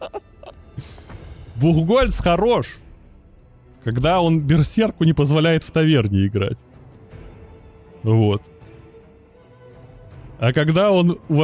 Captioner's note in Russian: смех